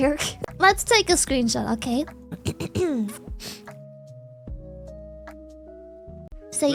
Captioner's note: clears throat